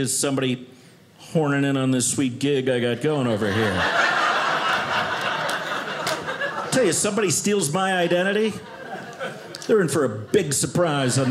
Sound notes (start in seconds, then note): 3.1 audience laughing